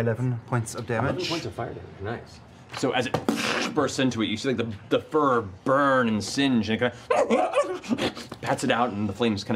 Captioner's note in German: wimmern